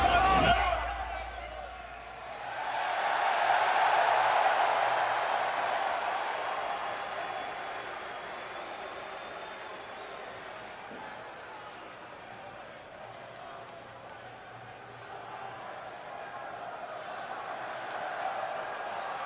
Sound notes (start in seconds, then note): 0.0 crowd chatter; 3.0 crowd cheering